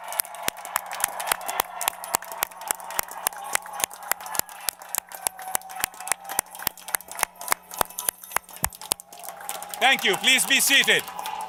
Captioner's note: applause